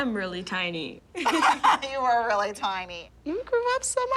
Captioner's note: both laughing